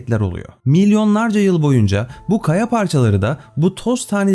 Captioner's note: breathing heavily